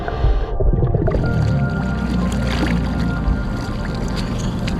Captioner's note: water splashing